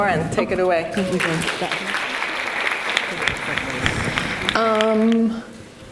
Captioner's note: audience applauds